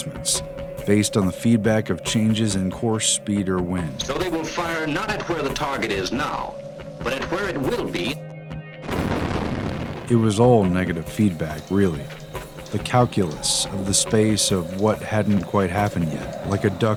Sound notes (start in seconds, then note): 8.9 anti-aircraft gun blast